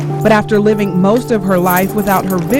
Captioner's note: nats walking on steps